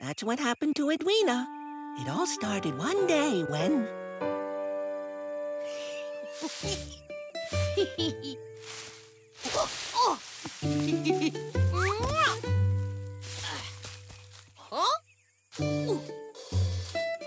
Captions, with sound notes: IT ALL STARTED ONE DAY WHEN... (EDWEENA GIGGLING) OOH! (SMOOCHING) HUH? OOH. OH, PERFECT.